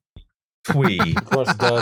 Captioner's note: laughs